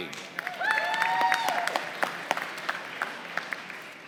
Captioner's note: applause